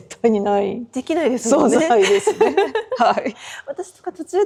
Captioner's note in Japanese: 笑い